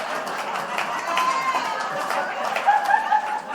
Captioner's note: applause